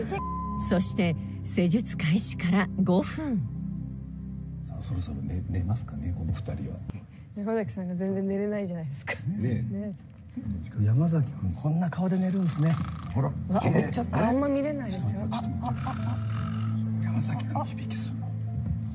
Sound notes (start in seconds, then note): 12.5 zzz